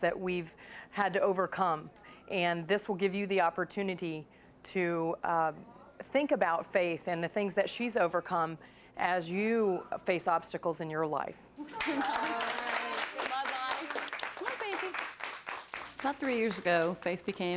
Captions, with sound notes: that we've had to overcome and this will give you the opportunity to think about Faith and the things that she's overcome as you face obstacles in your life. (clapping) - About three years ago,